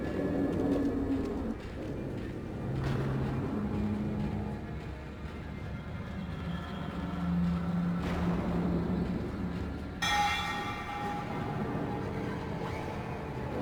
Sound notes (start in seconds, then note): 10.0 bell ringing; 12.6 dramatic music